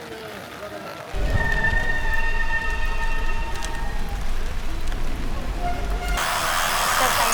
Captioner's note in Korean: 여기저기 울리는 젖은 디스크 브레이크 소리